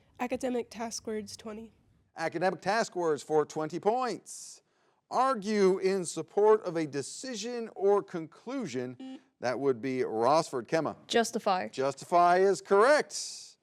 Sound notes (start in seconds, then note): 9.0 button blips